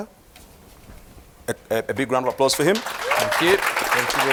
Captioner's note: applause